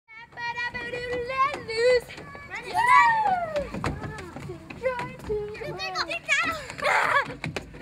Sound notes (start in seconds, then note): 0.4 children shouting; 6.6 laughing